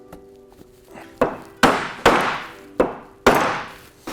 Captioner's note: hammering